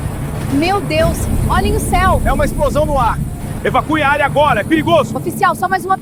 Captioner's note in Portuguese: explosão